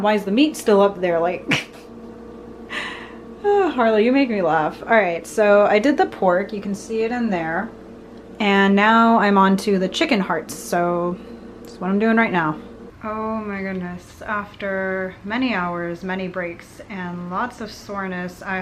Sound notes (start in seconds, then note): 3.0 laughs